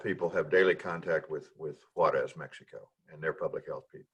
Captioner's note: murmurs